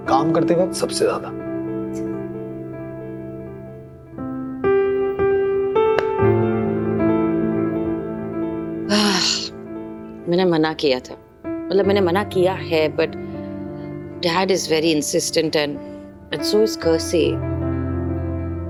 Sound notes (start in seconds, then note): 4.7 gentle music playing; 8.8 sighing